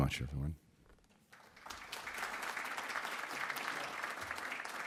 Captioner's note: audience clapping